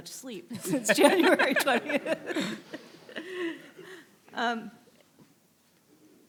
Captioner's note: laughs